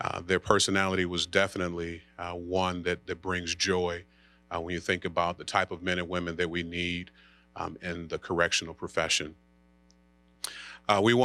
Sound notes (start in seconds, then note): none